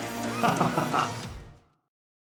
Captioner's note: Kan-Ra Laughs